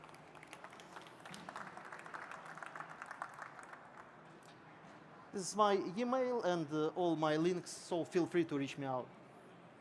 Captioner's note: applause